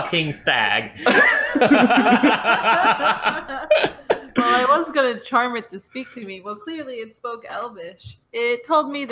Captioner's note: laughter